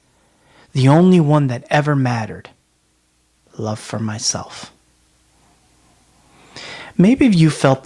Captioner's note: breathe pause